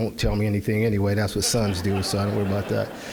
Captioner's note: audience laughing